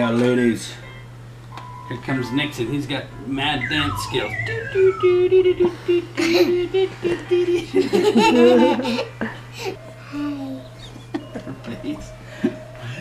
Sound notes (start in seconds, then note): 4.1 humming; 6.9 laughing